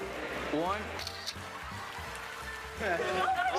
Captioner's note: camera shutter clicks